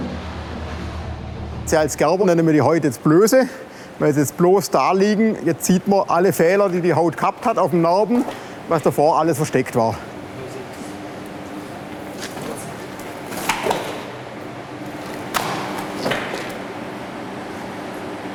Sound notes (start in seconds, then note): 12.0 splashing